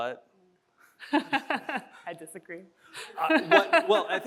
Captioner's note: chuckles